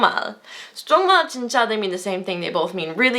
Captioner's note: foreign language